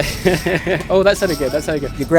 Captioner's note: laughing